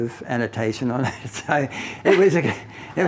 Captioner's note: both laughing